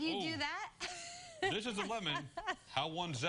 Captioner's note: laughter